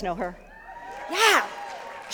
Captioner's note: cheering